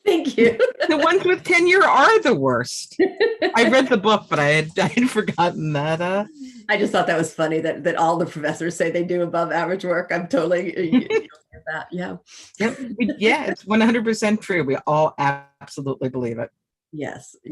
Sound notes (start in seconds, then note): 0.2 laughs; 10.8 chuckles